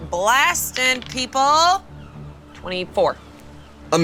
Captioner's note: die rolling